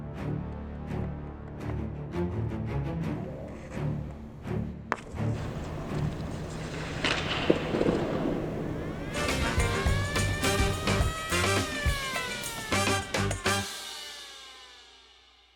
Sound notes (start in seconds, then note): 0.0 tense music; 0.2 hockey stick tapping softly; 5.3 hockey stick cracks; 7.1 hockey stick clatters; 9.0 siren wailing; 10.9 upbeat music